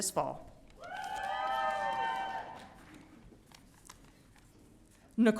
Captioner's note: audience cheering